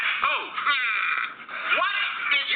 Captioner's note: groaning